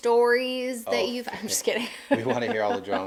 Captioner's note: laughing